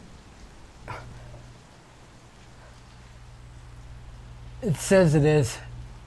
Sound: grunting

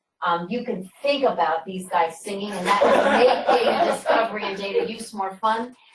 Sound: laughter

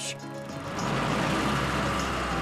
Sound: engine Revs

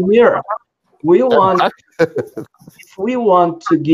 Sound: laughs

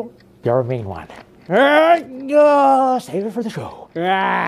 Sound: grunting

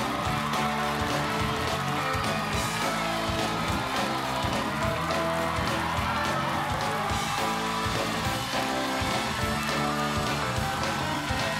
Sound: cheers and applause

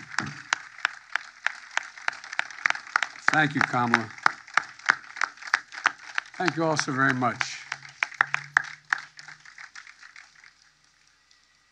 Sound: cheers and applause

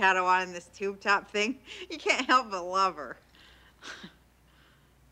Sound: laughs

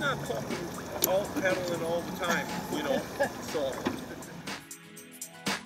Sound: laughing

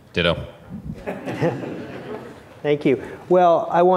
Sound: laughter

